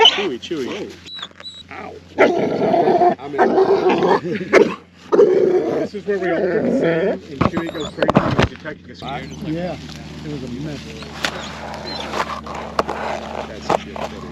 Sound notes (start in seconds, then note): 0.0 dog whining; 2.5 dog growling; 9.9 team member chattering